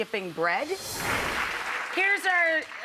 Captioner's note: air whooshing; clapping